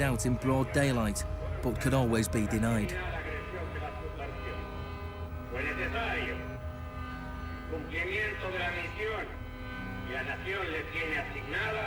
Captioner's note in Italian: uomo che parla spagnolo